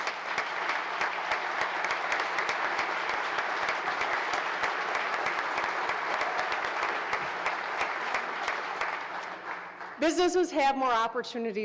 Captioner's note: applause